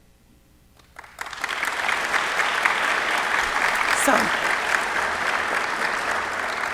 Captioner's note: applause